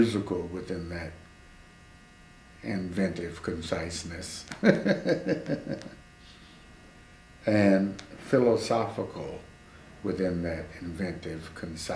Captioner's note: laughs